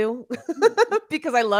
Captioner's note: chuckling